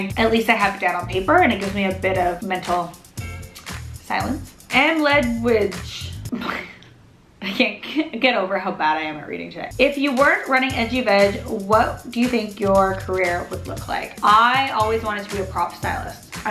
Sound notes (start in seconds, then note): 6.3 laughs